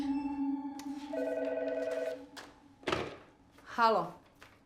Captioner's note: phone rings